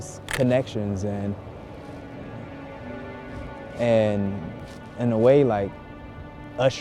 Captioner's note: camera clicks